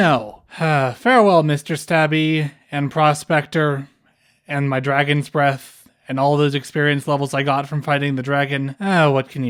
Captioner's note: sigh